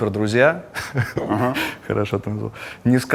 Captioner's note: chuckles